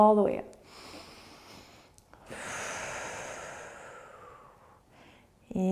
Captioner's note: inhaling and exhaling